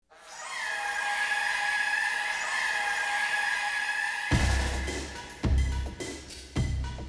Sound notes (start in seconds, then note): 0.2 siren blaring; 4.3 upbeat music